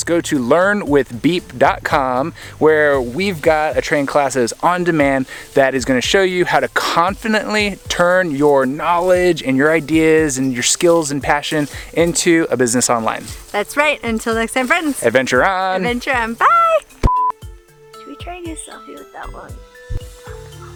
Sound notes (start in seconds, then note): 17.0 beeps